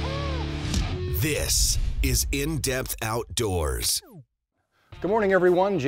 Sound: voiceover

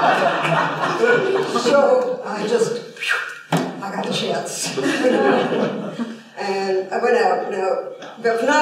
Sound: laughter

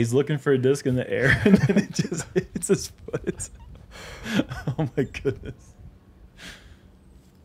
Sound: laughs

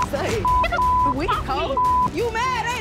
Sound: beep

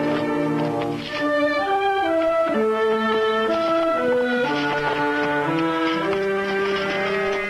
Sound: hoof beats

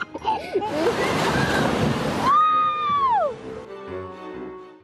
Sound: kids laughing; water splashing; woman screaming

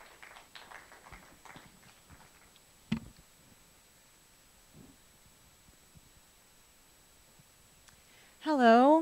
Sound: smattering of applause

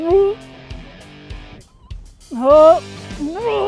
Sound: heaving

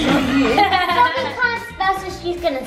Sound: laugh

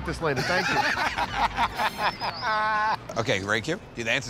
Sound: laughter

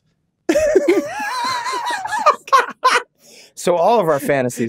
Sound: all laughing

